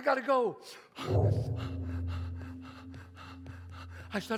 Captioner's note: gong sounds